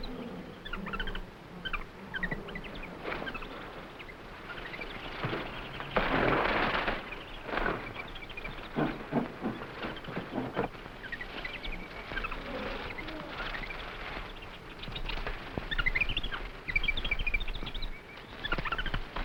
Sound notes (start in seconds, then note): 6.1 gorilla chattering; 6.1 plants rustling; 11.1 animals chattering